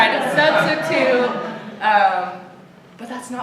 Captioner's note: laughter